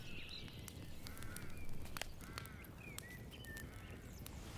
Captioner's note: birds chirping